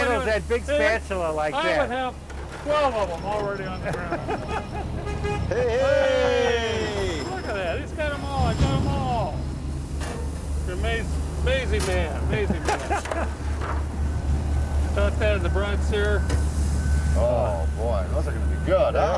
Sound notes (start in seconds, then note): 4.2 horn honks; 12.3 laughs